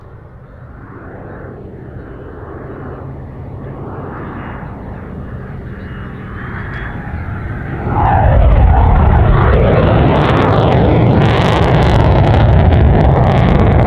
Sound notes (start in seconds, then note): 1.4 aircraft engine roaring in the distance; 7.9 aircraft engine roaring intensely